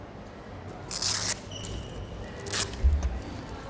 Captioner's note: velcro ripping